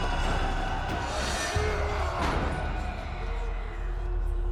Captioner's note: men yelling, weapons clashing